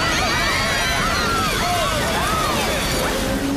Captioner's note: plane flying; screaming